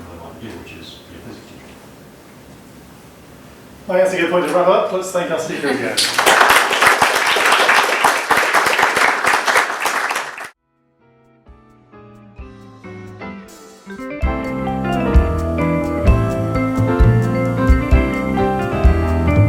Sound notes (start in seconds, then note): 5.7 applause